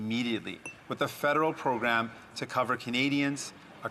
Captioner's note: none